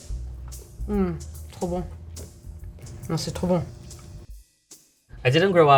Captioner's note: speaking a foreign language